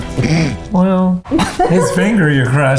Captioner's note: snickering